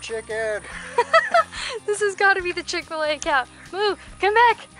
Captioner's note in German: Gelächter